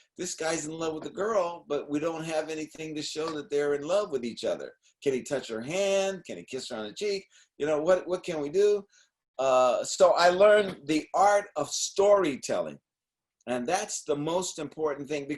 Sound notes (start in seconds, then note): none